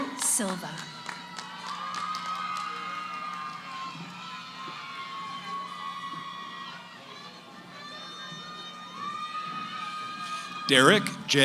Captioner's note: cheering